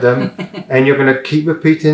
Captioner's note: laughs